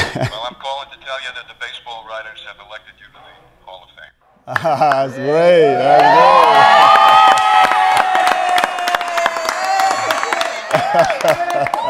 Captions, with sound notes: Well I'm calling to tell you that the Baseball Writers have elected you to the Hall of Fame. (Cheering)